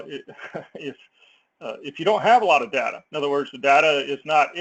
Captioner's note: laugh